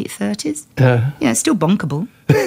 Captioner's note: laughter